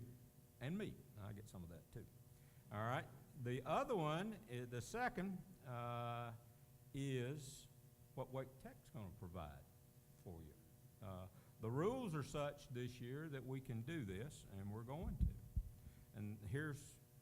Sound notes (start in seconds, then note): none